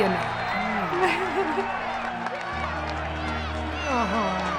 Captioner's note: crowds cheering